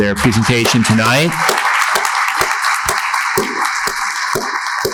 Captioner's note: attendees laughing